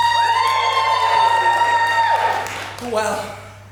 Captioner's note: audience cheers